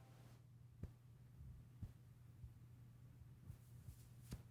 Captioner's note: hand patting